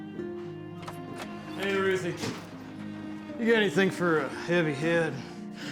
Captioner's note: door opens